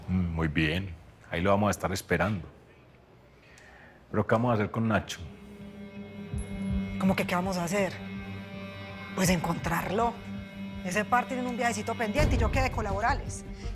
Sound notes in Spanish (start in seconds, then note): none